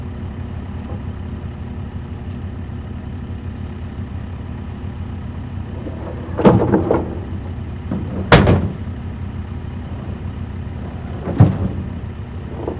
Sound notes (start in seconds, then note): 0.1 engine rumbling; 5.7 wood clanking